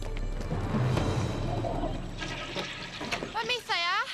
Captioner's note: toilet flushes